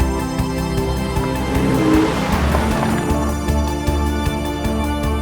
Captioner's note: engine revving